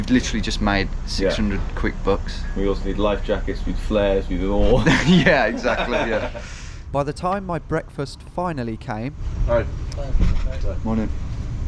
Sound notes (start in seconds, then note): 4.6 laughing